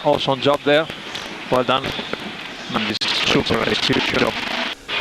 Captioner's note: feedback